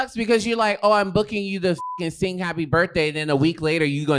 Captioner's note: beep